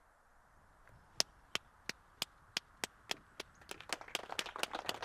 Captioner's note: Lemmy claps; crowd clapping